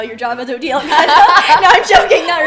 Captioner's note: laughs